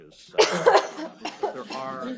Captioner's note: coughing